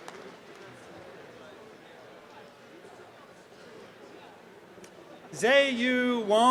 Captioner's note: applause; indistinct background chatter